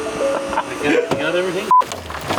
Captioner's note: laughing